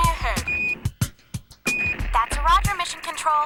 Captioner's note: beep beep